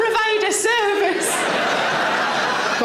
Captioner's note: audience laughs